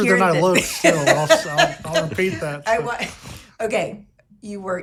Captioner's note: people laughing